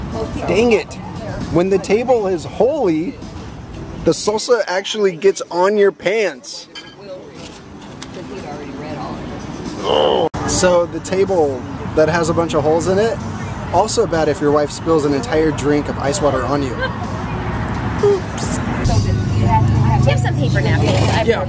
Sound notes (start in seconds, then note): 9.8 grunts frustratingly